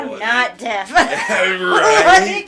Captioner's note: laughing